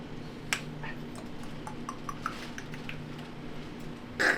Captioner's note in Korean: 꼴꼴꼴꼴 따라서